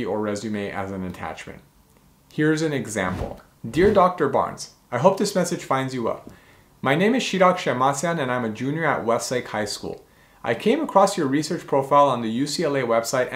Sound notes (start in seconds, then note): 3.0 air whooshing